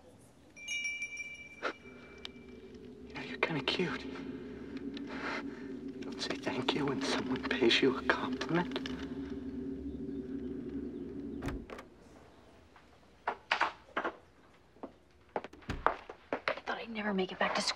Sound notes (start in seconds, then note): 3.0 bell jingling